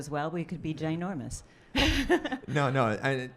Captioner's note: laughing